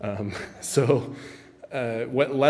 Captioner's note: giggles